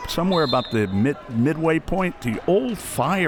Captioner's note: whistle